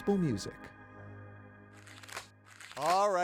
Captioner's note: paper rustles